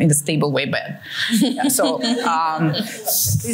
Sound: laughter

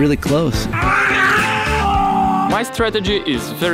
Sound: screams

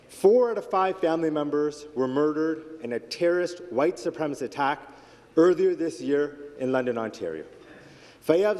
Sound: speaking Alternate Language

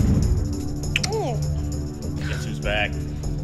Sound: gagging

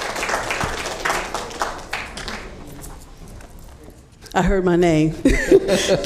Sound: applause

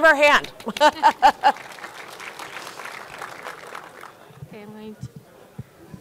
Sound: audience applauding; laughs

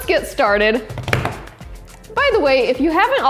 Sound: hands tapping

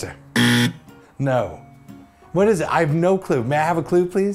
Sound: buzzer

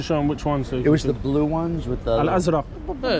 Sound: in Arabic

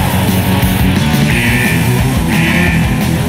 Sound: alarm sounds

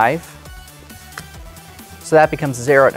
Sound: card slaps

